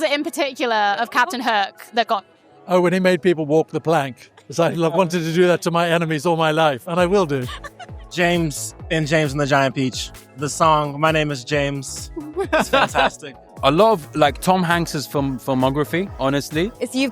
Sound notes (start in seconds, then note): 7.0 interviewer laughing